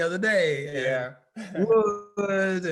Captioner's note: laughing